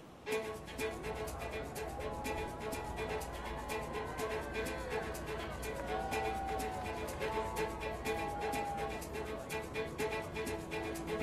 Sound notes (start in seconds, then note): 0.3 energetic classical music; 3.1 crowd cheering